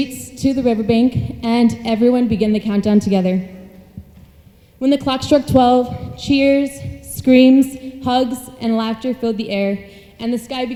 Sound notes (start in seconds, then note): none